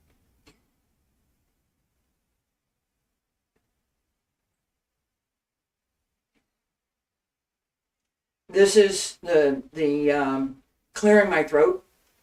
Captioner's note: silence